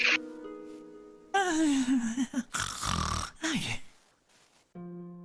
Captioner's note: snorrrrrre